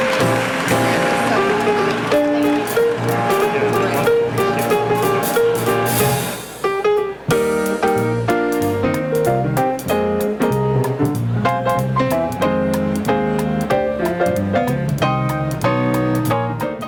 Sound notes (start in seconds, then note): 0.5 audience chattering